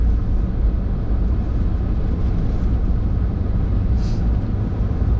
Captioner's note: engine rumbling